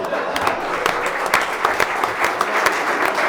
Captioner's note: clapping